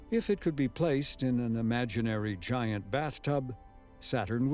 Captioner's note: none